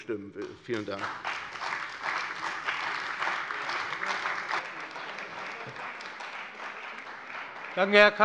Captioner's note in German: Beifall bei der CDU und dem BÜNDNIS 90/DIE GRÜNEN